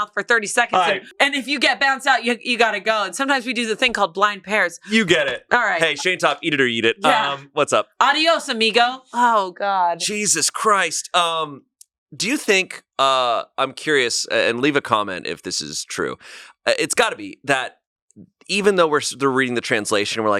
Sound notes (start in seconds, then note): 8.6 speaks in foreign language